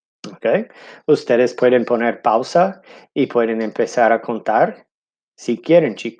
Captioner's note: speaking in foreign language